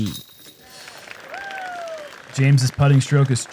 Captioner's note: applause